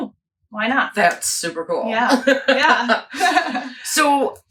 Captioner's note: laughs